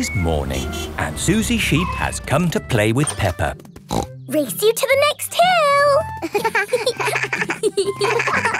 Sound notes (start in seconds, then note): 3.8 snorts; 6.2 both laughing